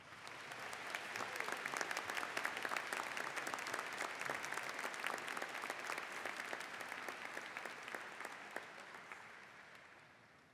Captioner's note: applause